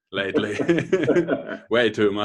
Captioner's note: laughing